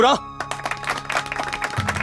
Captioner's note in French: Applaudissements